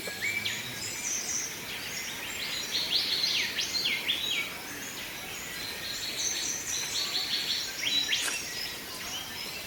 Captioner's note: birds chirps